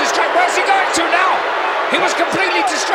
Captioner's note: audience cheering